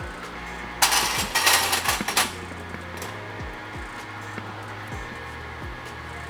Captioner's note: metal clanking